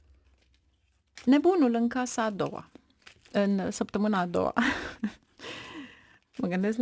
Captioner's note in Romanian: râsete